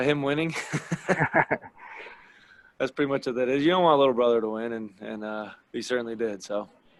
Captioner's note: laugh